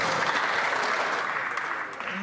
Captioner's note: some Applause